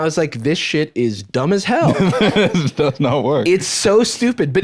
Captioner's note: laughs